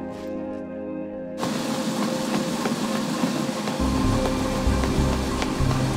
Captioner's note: treadmill whirring loudly over dramatic electronic music